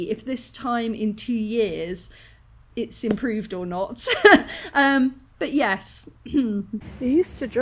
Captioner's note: clears throat